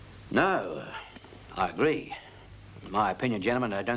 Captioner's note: none